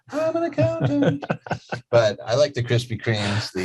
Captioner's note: laughing